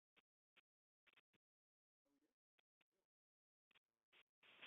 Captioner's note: silence